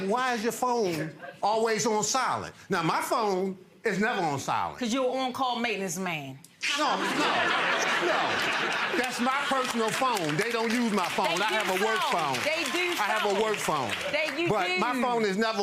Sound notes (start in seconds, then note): 6.6 audience laughs